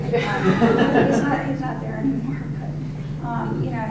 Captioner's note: audience laughing